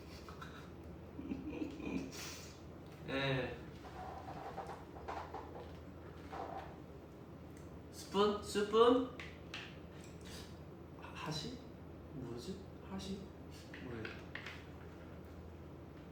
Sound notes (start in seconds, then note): 10.6 speaking Japanese